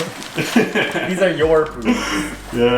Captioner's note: laughing